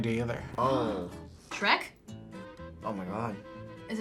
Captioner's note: gasps